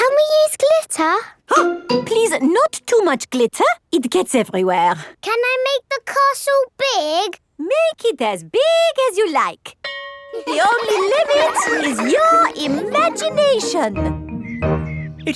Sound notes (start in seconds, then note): 9.8 school bell rings; 10.3 children laughing